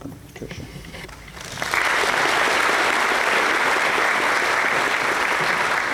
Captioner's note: applause